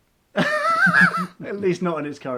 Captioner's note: laughing